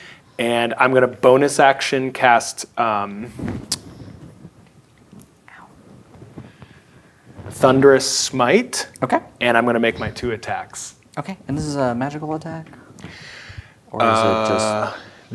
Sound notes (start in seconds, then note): 5.6 quietly